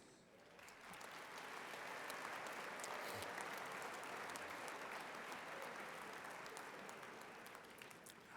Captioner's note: applause